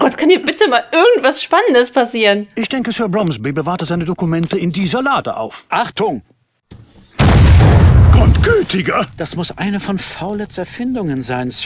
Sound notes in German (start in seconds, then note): 7.1 Explosion